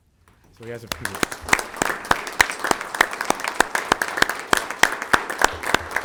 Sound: group clapping

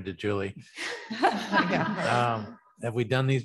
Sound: chuckling

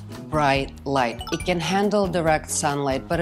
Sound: chimes twinkling

